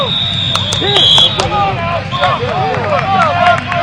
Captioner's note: whistles blowing; cheering, clapping